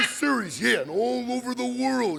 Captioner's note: Frankie squawking